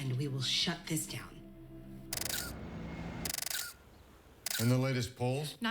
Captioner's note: <i> camera shutter clicking</i>